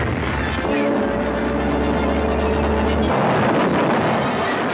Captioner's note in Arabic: هدير المنطاد